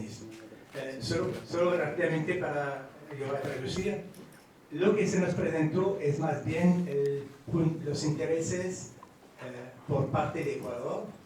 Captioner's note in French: Espagnol